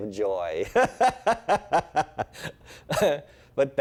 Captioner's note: laughs